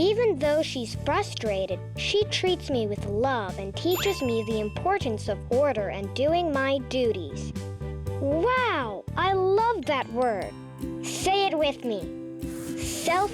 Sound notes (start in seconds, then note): 3.9 check mark rings; 10.1 mellow guitar music